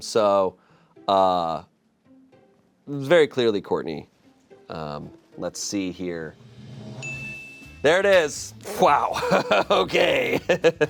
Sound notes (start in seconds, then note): 7.0 chime dings; 10.6 laughs